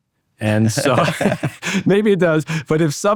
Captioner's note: both laugh